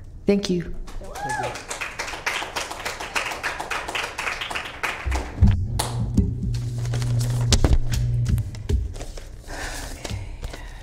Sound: applause

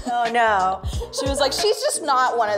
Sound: Melissa laughs

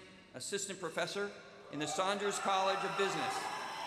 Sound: cheers and applause

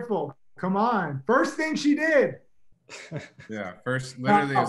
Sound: chuckles

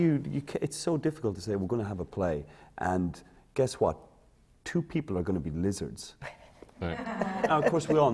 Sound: laughter

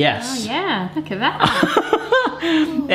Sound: laughs

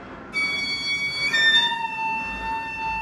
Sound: whistling

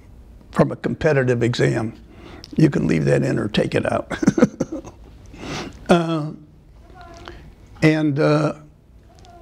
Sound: laughter

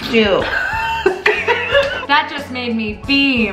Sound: laughs

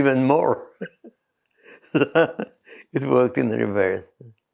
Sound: laughs

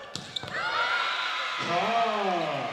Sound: players shouting

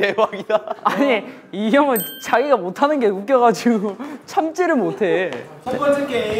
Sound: crying from laughter because he was bad

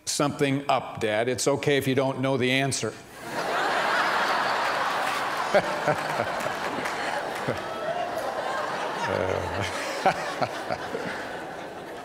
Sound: laughter

